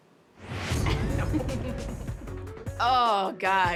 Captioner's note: laughs